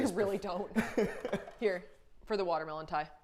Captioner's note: laughing quickly